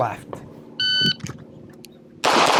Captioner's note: machine beeping; gunshots banging